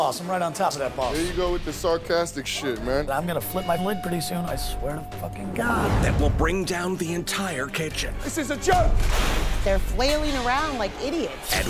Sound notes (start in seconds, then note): 8.7 shouting